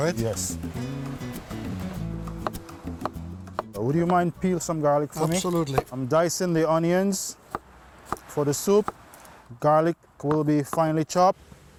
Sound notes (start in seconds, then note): 3.4 chopping